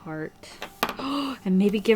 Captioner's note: gasps